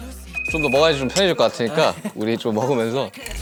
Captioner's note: cheers